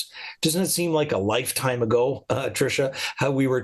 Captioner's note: chuckles